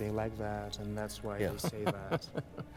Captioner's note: Putin laughs